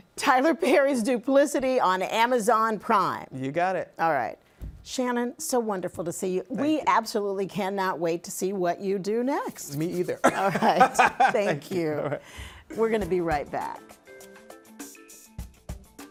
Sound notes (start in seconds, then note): 10.2 laughs